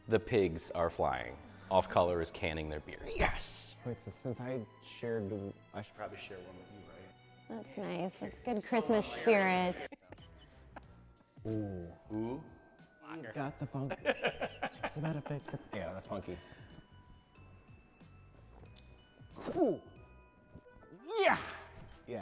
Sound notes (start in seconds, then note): 9.8 laughing; 13.8 laughing; 15.6 scatting